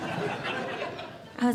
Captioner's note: audience Laughing